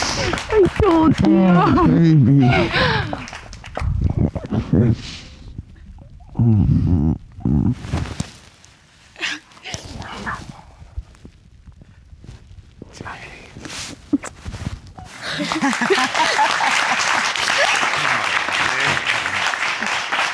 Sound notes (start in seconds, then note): 6.3 sighing in relief; 15.0 laughing; 15.1 audience clapping